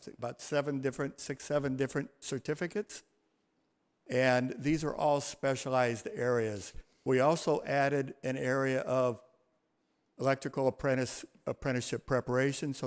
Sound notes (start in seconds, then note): none